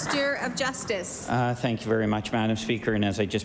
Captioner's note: applause